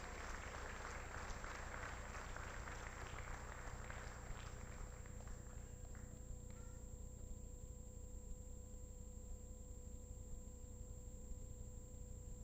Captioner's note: applause